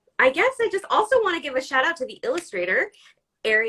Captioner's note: none